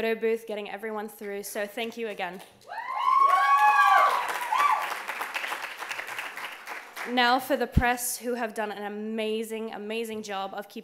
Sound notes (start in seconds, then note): 3.8 clapping